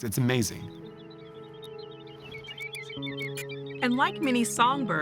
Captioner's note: chirping